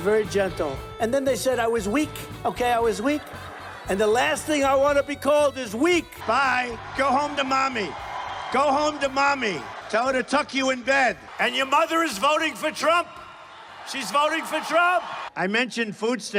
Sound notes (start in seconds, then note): 2.8 laughing; 15.7 cheering